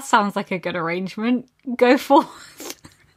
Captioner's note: laughing